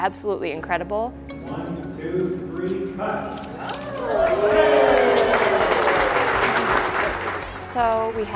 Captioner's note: applause